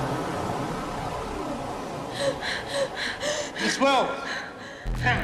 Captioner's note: Karen gasping